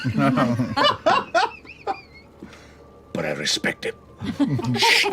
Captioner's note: laughter